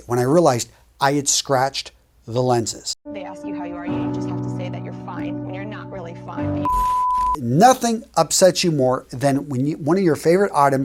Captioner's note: sound effect